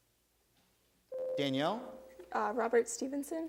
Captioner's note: bell rings